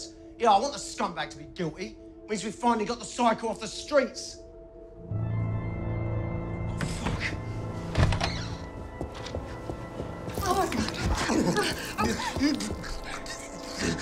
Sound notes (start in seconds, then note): 5.3 eerie music; 10.4 gurgling